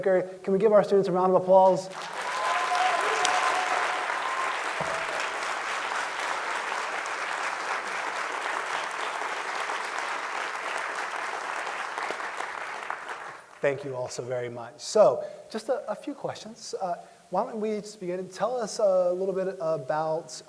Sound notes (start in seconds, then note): 14.1 applause